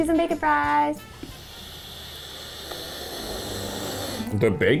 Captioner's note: sniffing